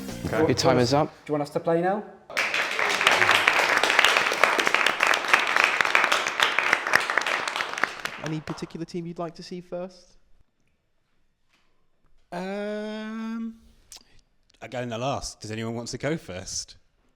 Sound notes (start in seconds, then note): 2.3 applause